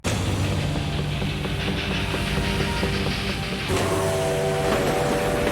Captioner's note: dramatic music; train chugging; train whistling